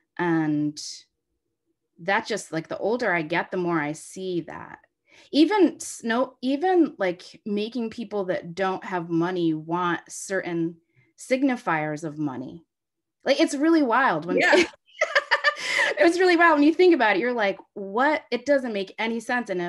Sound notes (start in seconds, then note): 14.3 laughs